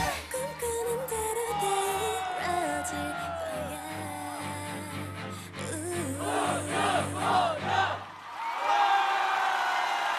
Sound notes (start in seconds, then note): 6.2 fanchant; 7.6 screams and Applause